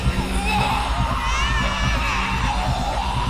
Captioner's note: screaming